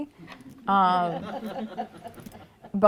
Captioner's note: laughter